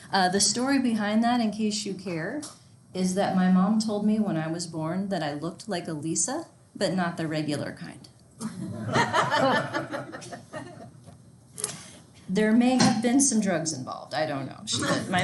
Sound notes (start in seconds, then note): 8.5 class laughing